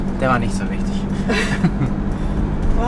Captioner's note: laughing